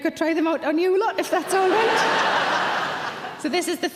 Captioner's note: audience laughing loudly